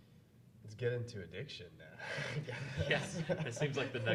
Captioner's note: laughing; laughs